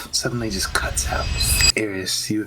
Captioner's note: shoop